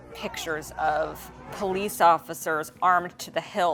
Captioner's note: crowd protesting